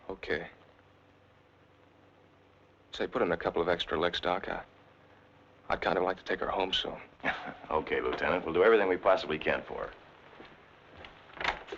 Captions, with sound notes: Okay, say, put in a couple of extra licks, Doc. I'd kinda like to take her home soon. - (chuckles) Okay, Lieutenant, we'll do everything we possibly can for her.